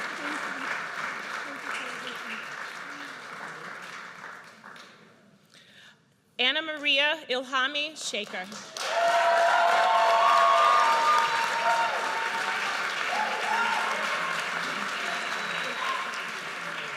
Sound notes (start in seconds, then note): 9.5 audience cheers